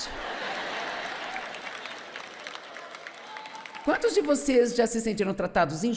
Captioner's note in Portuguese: audiência aplaude